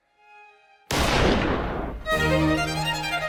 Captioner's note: gun fires; dramatic orchestral music